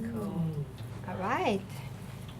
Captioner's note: audience murmuring